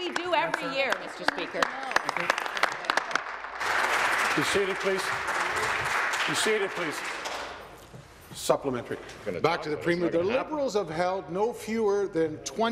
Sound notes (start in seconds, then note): 4.8 applause